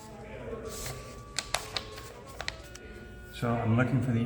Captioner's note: paper rustling